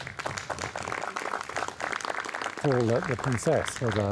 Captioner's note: attendees clapping